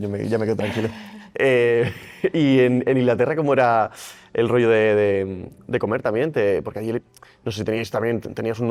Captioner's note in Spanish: risas